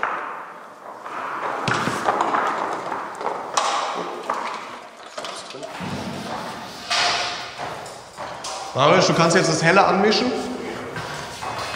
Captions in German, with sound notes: (Scheppern) Mariusz, du kannst jetzt das Helle anmischen.